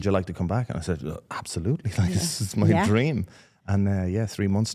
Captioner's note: laughs